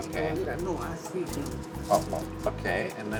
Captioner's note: speaking Spanish